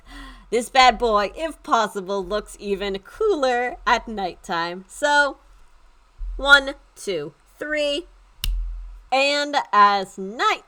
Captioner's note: snapping of fingers